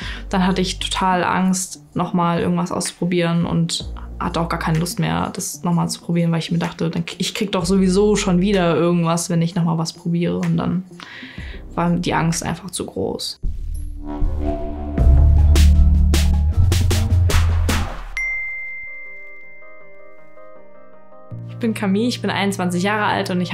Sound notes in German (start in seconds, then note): 13.5 Dröhnende Klänge; 18.2 Klingeln; 19.9 Sanfte Musik